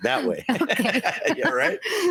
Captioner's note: laughing